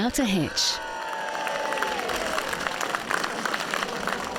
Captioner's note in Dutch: publiek juicht